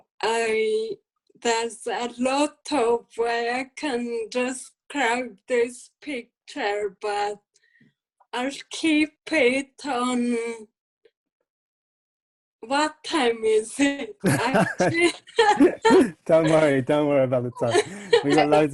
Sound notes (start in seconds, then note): 14.2 laughing